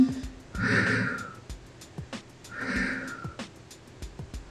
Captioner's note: exhales deeply